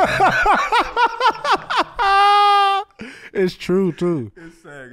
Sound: laughing

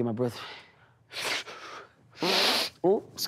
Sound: farts

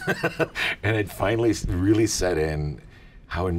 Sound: laughs

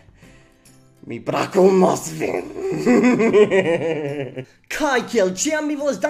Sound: evil laugh

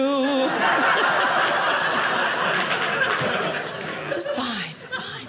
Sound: audience laughing

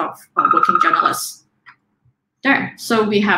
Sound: alarm beeping

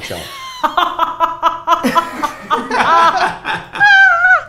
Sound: laughter

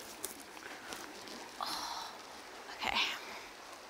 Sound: groans

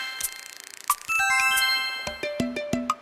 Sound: receive reward sound

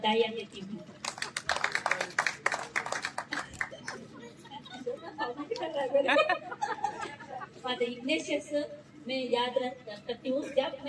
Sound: applause; laughter

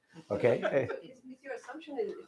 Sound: laughter

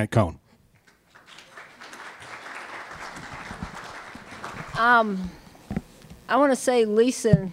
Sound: applause

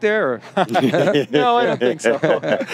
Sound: panelists laughing

